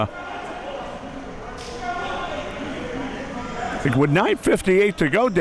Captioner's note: audience chattering